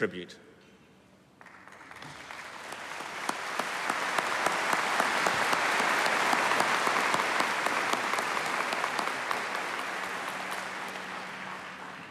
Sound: applause

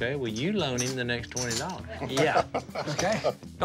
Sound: laughs

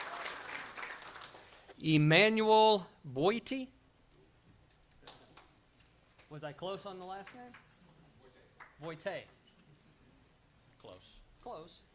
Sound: applause

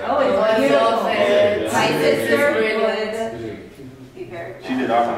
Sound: chattering indistinctly

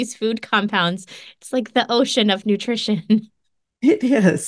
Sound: chuckles

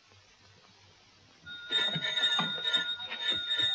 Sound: buzzer

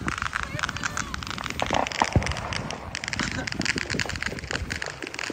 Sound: fireworks popping and sizzling

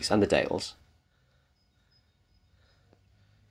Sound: birdsong

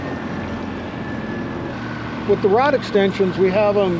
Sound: boat engine idling

